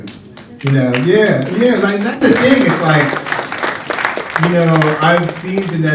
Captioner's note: applause